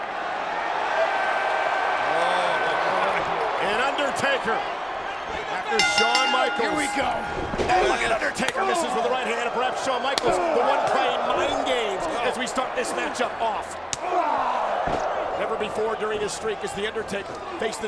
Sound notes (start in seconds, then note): 0.9 crowd cheers; 5.8 bell rings